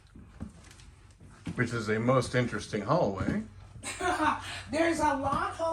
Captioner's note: laughs